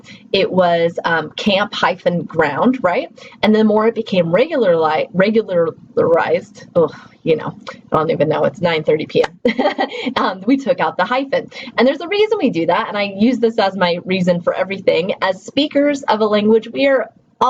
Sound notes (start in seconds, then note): 9.4 laughs